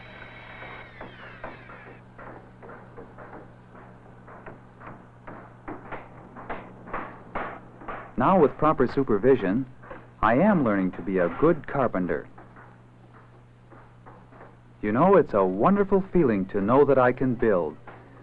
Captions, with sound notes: *soft whirring noises* *hammering noises* Now with proper supervision, I am learning to be a good carpenter. You know, it's a wonderful feeling to know that I can build.